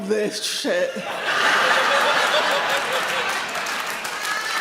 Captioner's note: audience laughs loudly